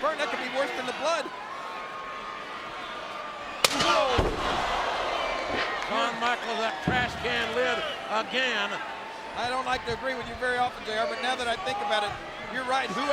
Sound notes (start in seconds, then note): 3.7 fans groaning; 3.7 lid thwacking